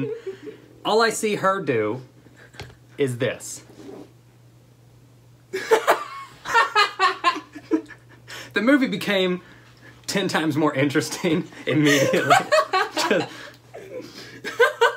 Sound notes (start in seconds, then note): 5.5 laughter; 11.7 laughter